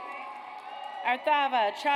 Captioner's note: audience applauds